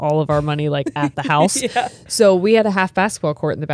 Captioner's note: laughs